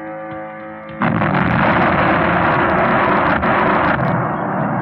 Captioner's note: exploding